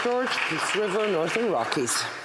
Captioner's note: some Applause